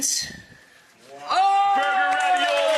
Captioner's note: Rachael cheering; audience applause